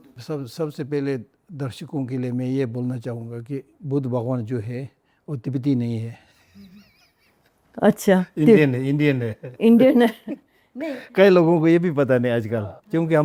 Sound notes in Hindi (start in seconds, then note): 9.2 हंसी